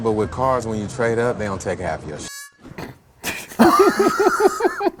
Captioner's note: beep; both laugh